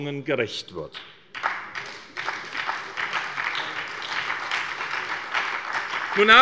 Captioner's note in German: Beifall bei der SPD